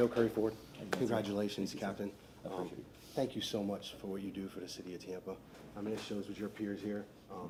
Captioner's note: applause